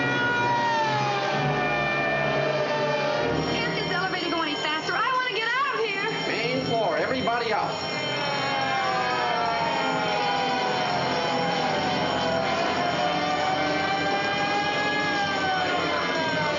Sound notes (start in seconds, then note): 0.0 dramatic music; 7.8 alarm blaring; 10.1 siren blaring